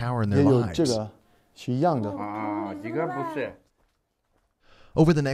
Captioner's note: discuss in foreign language